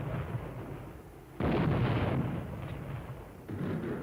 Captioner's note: explosion